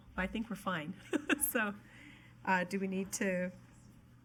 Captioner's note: laughs